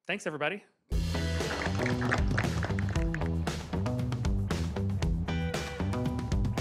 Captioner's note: upbeat music; applause